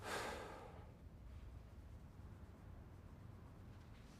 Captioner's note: Vukasin sighing